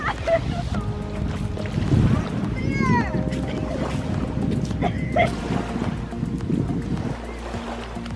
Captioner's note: coughs